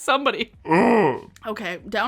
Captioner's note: groans